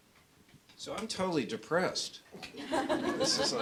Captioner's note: laughter